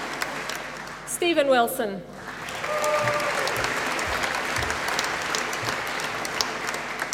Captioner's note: applause